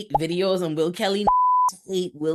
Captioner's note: beep